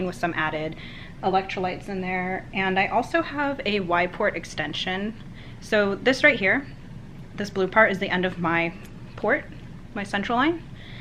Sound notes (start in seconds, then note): none